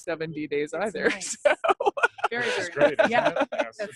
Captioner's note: laughing